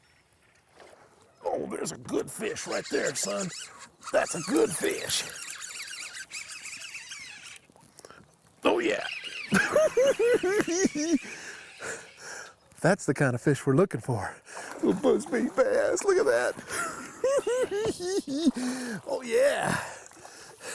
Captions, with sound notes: Oh! There's a good fish right there son! That's a good fish! Oh yeah! [cackling] That's the kind of fish we're looking for. Little buzz bait bass. Look at that! [cackling] Oh yeah!